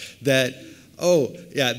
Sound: none

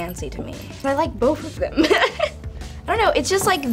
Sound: laughs

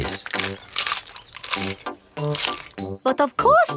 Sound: munching

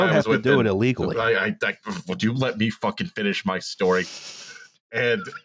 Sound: pffft

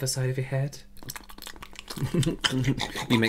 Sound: terrible ASMR Sounds

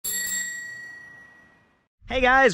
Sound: bike bell rings

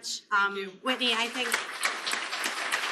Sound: applause

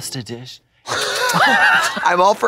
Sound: Katya smooches

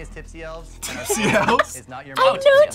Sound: laughs

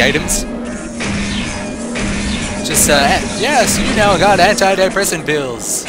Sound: gunshots

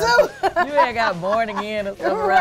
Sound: laughs

